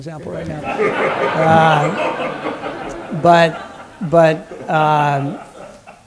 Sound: laughter

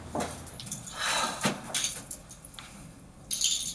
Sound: footsteps; sighs tensely

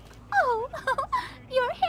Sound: giggles

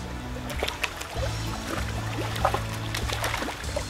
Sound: bubbling sounds

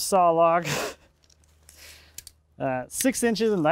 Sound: laughs

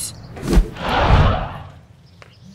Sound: swoooosh!

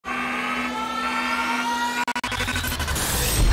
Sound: sirens

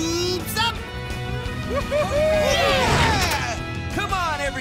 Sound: cheering

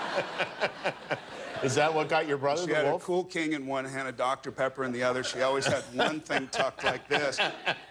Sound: laughter

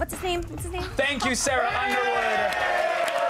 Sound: applause

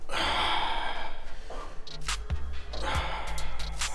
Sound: exhales

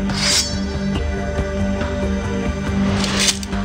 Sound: sword unsheathes; sword clinks

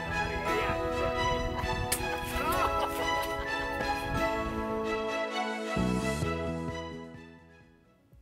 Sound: laughter off microphone

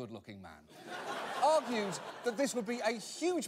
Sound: audience laughter

